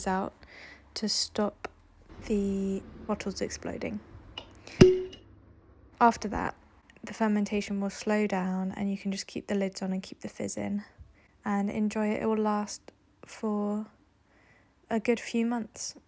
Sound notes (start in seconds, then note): 4.7 pop